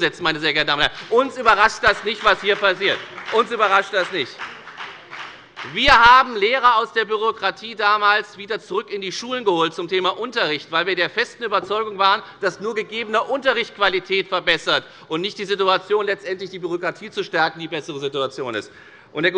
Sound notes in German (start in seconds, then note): 2.5 Beifall bei der FDP und bei Abgeordneten der SPD